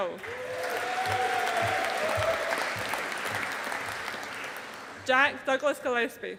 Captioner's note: audience applauding